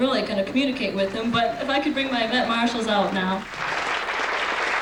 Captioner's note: applause